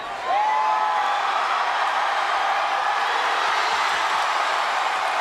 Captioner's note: audience applauds and cheers